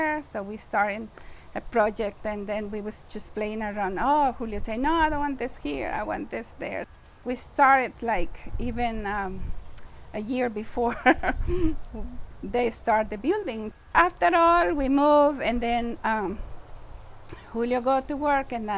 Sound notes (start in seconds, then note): 10.9 laughter